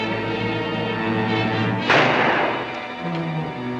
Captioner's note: gun fires; suspenseful music